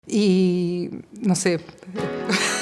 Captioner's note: laughs